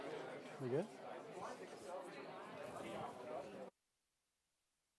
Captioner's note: people chattering